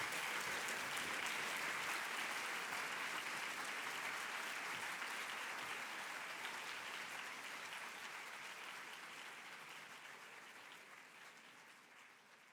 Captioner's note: applause